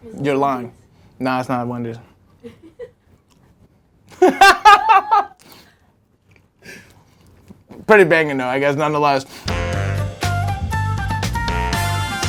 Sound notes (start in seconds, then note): 2.6 laughing; 9.4 upbeat music